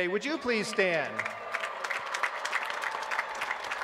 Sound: applause

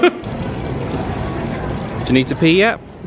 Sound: fountain trickling

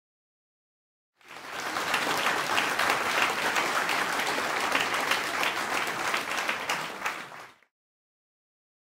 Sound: sound of applause

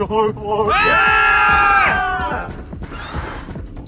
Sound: scream

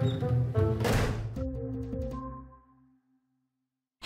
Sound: door shuts

